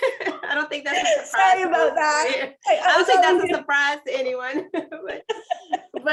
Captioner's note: laughter